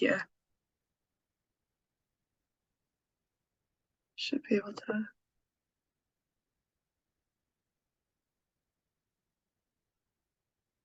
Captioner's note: silence